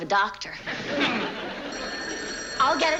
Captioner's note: phone rings